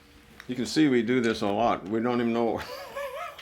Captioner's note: laughs